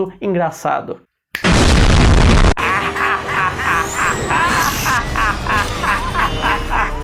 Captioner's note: goblin laughter